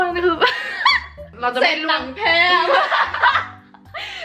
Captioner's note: laughing; laughing